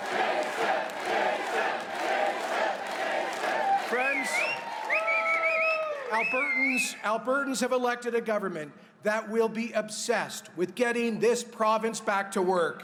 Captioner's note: chanting jason